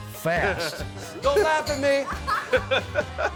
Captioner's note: laughing